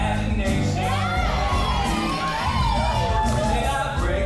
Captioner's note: cheering